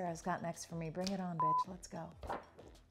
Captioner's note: beep